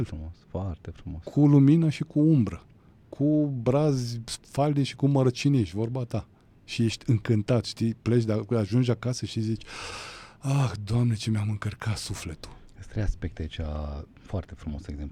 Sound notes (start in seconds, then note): 9.6 gasp